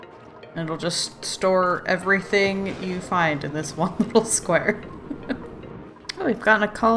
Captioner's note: laughs